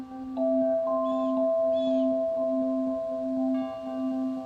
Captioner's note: birds chirping; bell tolling